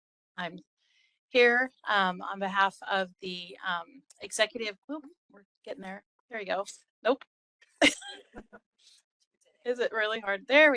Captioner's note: laughing